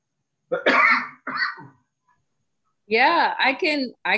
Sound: coughs

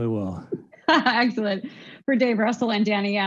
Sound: chuckles

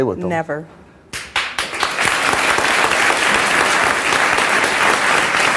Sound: audience applause

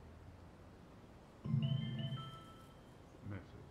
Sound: phone bleeping

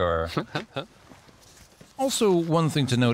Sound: chuckles

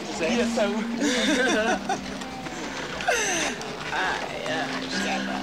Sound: laughing

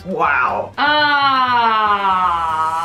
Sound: loud Sigh

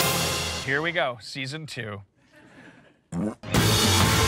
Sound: fart noise

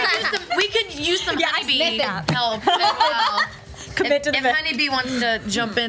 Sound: groups chats excitedly over each other

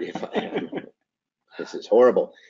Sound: laughing

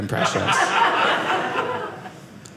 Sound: audience laughing

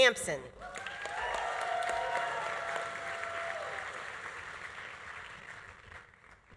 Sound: audience applauding; audience cheering

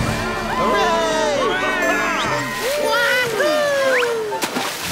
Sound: cheering

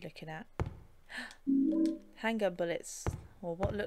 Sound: gasp

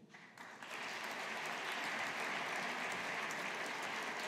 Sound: audience applauding

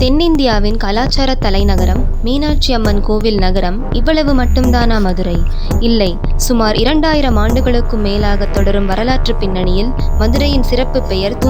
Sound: strong, confident voice

